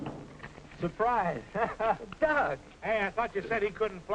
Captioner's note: chuckles